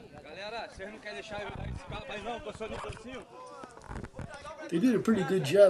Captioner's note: people speaking Portuguese